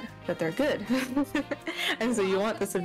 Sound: laughs

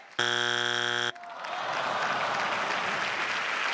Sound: buzzing sound; crowd; crowd claps

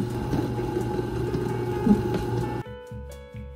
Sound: blender continues making sounds; blender making sounds; peaceful jazz music

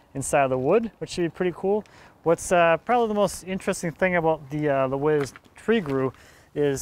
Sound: none

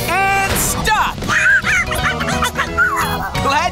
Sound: monkey noises

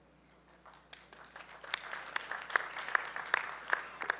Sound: applause

